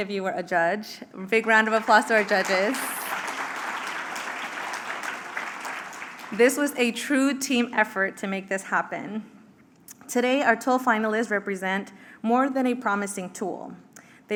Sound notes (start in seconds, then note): 1.4 applause